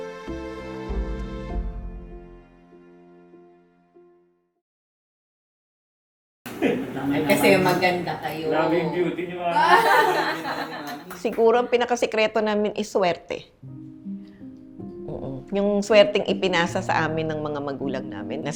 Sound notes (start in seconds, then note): 8.7 laughs